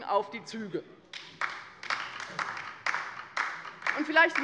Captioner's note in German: Beifall bei der LINKEN